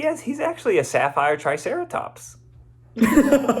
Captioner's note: Zach laughs